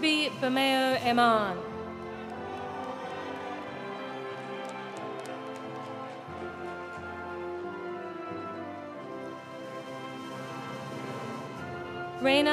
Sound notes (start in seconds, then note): 1.6 audience applauding; 1.6 audience cheering